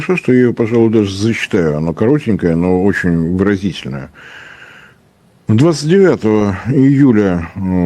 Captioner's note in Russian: тяжело вздыхает